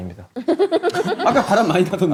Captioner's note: laughs